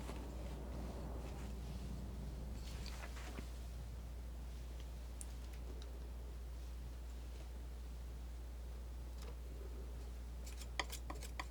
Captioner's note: scratching